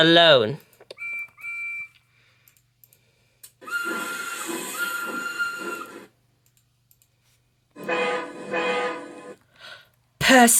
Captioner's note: Percy, Lady and Diesel 10 arrive blowing their whistles and horn